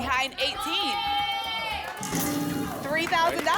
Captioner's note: cheering